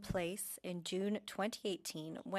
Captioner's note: speaking french